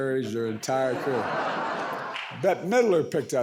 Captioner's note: audience laughs